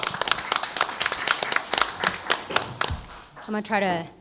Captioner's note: applause